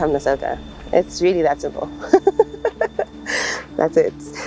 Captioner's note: laughs